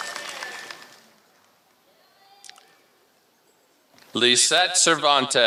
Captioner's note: applause